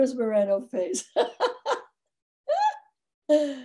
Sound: laughs

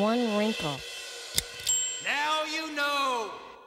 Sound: dings

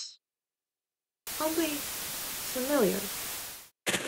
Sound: static

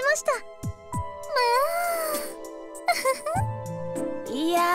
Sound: giggle

